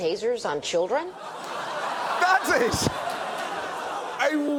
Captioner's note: audience laughs